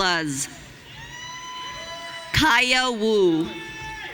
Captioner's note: audience cheering